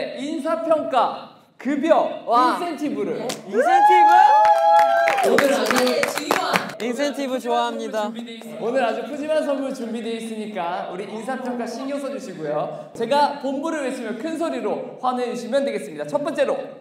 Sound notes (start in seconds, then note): 4.0 just applauding at the sound of it